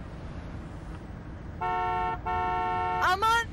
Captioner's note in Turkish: Korna sesi